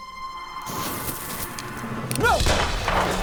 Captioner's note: sizzling; gun shot